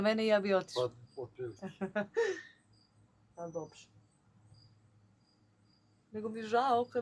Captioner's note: laughs